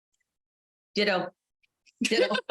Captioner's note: laughter